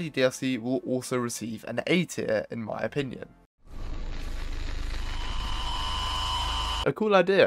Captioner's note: Slenderman Static